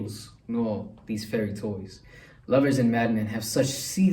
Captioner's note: gasps